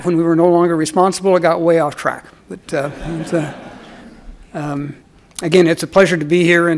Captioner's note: audience laughs